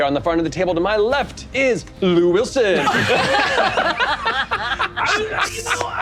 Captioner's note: all laughing